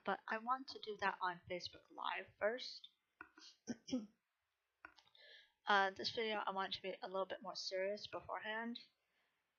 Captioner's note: clears throat